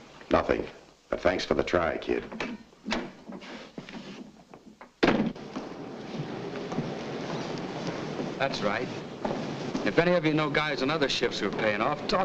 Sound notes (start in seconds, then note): 5.0 door bangs shut